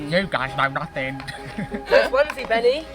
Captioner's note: mocking voice